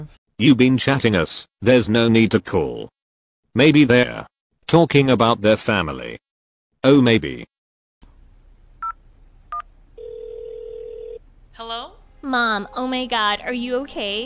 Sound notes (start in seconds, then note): 10.0 telephone rings; 10.0 telephone touchtones